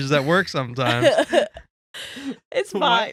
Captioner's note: laughing